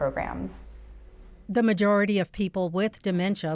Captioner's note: voiceover